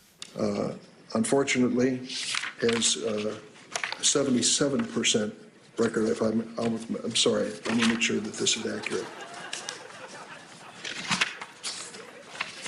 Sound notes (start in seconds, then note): 2.1 page turns; 8.4 laughter; 10.5 pages turning